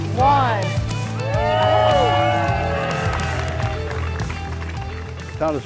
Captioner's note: people cheering and applauding